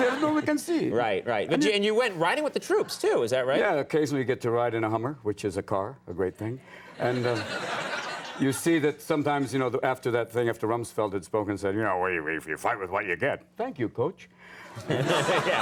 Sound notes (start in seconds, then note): 6.9 audience laughs; 14.7 audience and Conan laugh